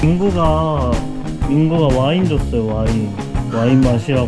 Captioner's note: impressed